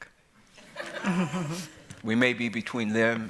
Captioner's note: laughter